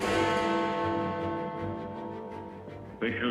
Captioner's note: bell tolls